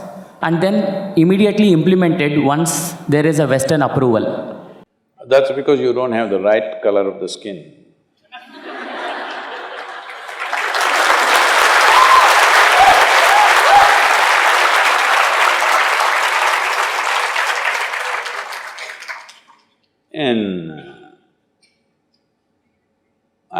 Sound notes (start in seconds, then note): 8.3 laughter; 9.6 cheering/Applause